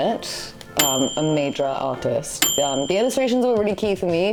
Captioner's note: bell dinging